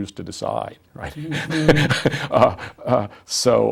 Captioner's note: laughs